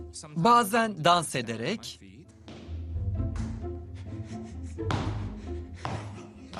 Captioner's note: stomping